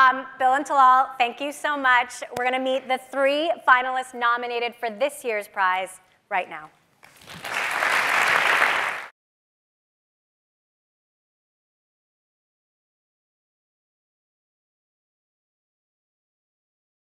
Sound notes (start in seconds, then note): 7.0 people clapping